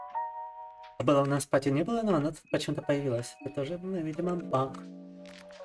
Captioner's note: speaking in foreign language